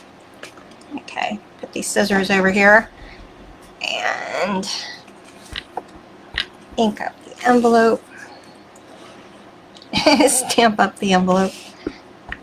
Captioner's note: laughing